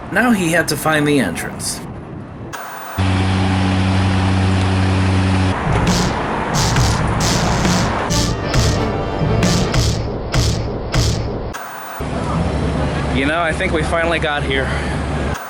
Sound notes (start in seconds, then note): 2.6 white noise scratching; 5.7 lethargic percussion music; 10.9 white noise scratching